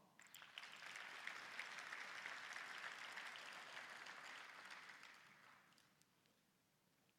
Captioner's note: applause